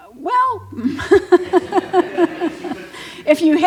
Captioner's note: laughter